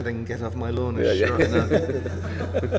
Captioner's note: laughter